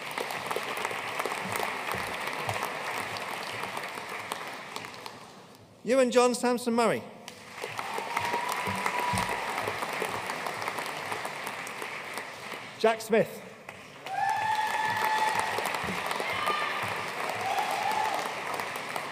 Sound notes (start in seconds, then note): 0.0 audience applauding; 7.4 audience cheering and applauding